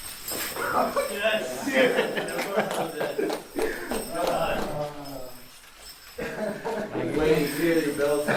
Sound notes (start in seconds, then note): 2.2 laughter